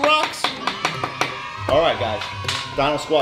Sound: cheering

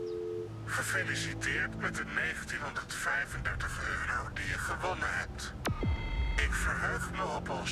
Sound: distorted voice

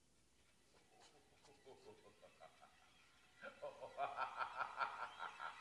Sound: laughter

